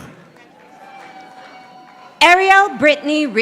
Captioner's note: audience applauding